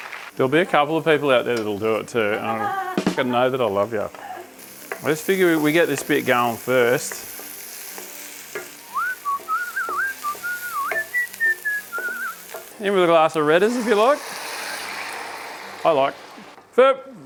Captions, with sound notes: There'll be a couple of people out there that'll do it too. f***** know that I love ya I figure we get this bit going first. *whistlin* In with a glass of redders, if you like. I like. VEH!